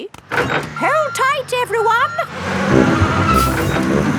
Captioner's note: bus beeping